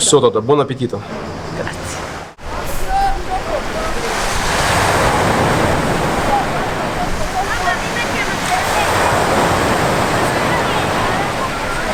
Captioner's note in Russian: Шум прибоя